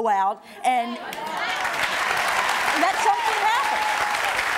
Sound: audience cheering

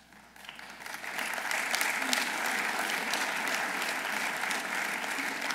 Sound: audience applauding

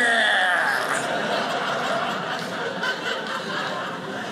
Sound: audience laughing

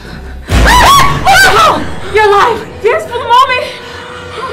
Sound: both scream

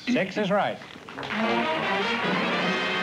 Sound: applause

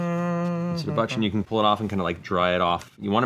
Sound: humming

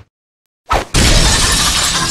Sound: crash

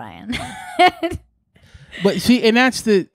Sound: laughing

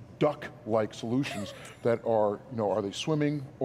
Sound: laughing

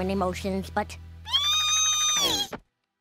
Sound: squealing

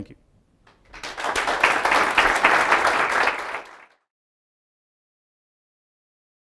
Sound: applause

